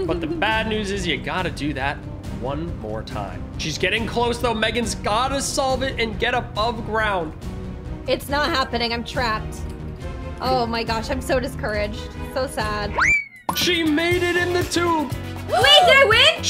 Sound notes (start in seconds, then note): 12.7 whooshes